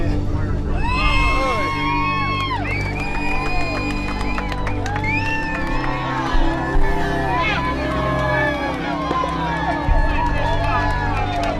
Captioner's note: cheering